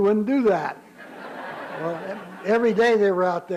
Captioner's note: laughter